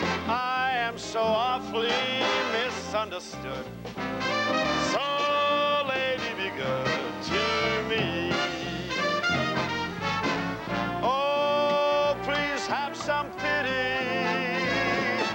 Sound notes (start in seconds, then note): none